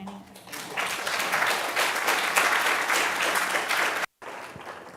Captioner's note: audience applauding